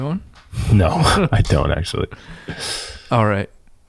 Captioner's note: laughs